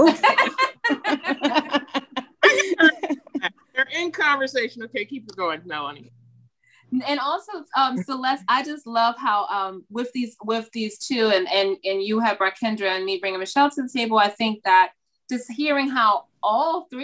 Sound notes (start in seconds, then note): 5.9 laughing